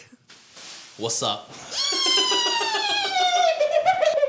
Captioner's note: chuckles; squeals; laughs